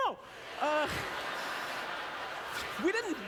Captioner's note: audience laughter